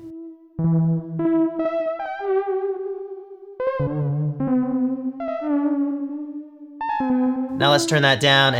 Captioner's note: wobbly beepboops